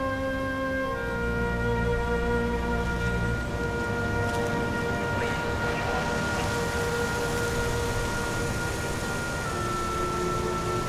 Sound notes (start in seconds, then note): 7.1 car engine hums